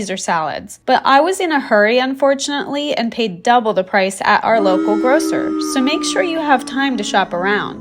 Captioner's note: boo